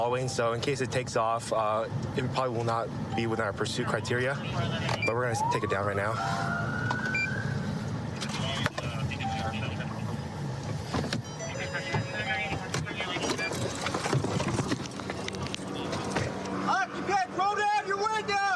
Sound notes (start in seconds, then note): 5.0 police siren; 11.2 car door chiming